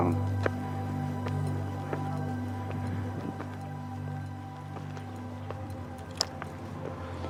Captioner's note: tourists chattering; gentle music